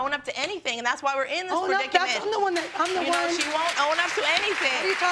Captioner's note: audience clapping